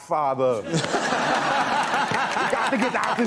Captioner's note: audience laughing